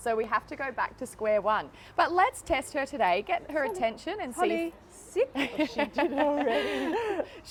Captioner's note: laughter